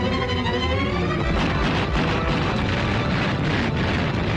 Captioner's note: guns banging